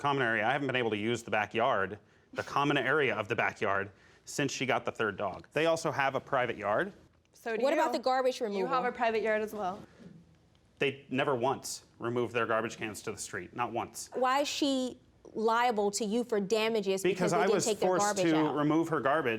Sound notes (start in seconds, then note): 3.0 scoffs